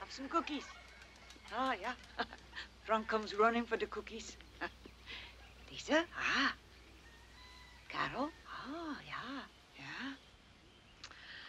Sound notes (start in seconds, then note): 4.9 birds chirping